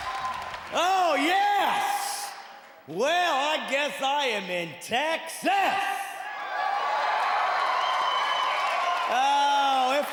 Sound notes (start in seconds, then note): 6.0 cheering